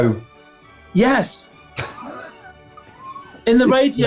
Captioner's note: sniggering